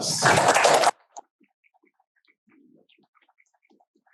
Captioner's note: crowd applause